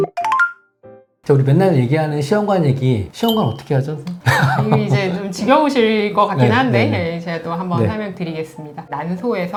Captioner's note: laughter